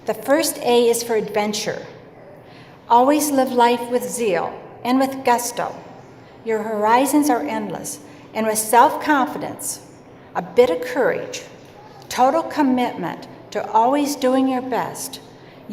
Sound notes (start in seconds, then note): none